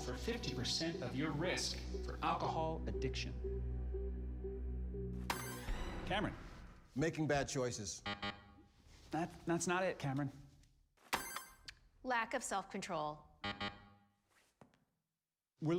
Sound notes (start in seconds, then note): 5.4 buzzer dings; 8.0 buzzer buzzes; 11.3 buzzer dings; 13.4 buzzer buzzes